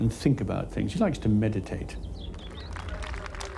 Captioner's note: birds chirping; audience applauding